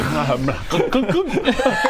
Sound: glug glug glug

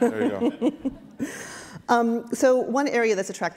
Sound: chuckling

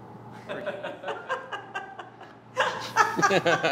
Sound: laughter begins; laughter increases

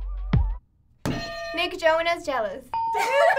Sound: funky beat; hitting bell; laughing

